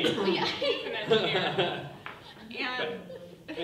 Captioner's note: people laughing